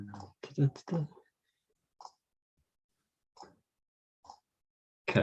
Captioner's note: computer mouse clicking